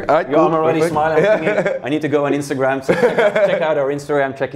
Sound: laughs

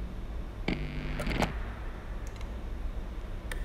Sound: electrical buzzing

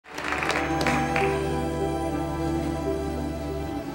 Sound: audience applauding; gentle music

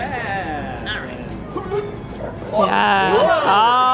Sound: grunts

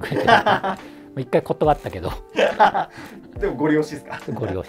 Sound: laughing

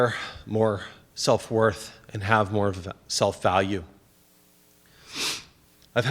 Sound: sniffs

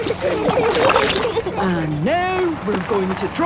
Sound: giggling

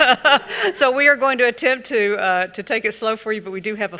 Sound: laughs

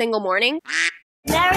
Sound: quack

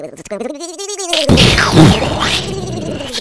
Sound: explosion

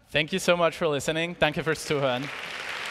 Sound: applause

